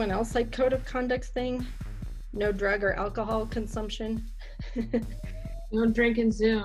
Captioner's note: a lil laugh here because it's hard to imagine